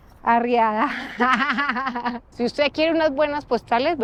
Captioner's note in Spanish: Risas